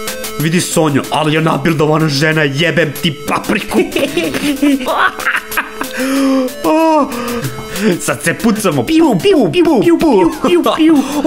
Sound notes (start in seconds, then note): 3.6 still laughing